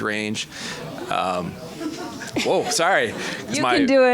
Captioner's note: audience reacting loudly